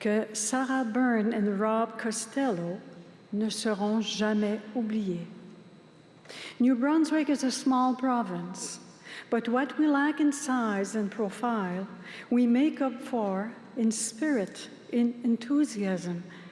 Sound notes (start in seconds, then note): 2.1 speaking french